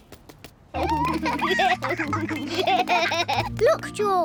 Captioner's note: both giggle